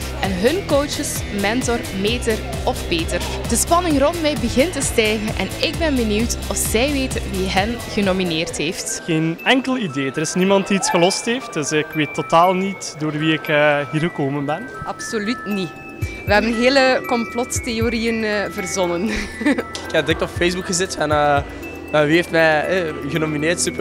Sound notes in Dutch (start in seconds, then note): 19.1 lacht